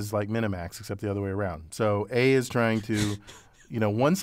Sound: laugh

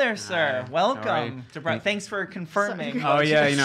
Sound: laughs

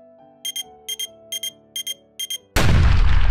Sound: beeping

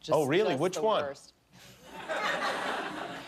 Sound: laughter

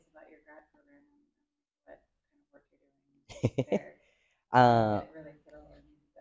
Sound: laughs

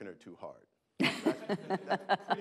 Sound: laughing

